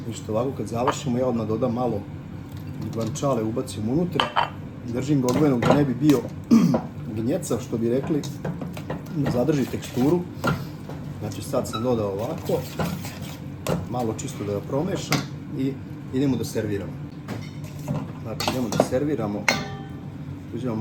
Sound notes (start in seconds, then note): 6.4 coughs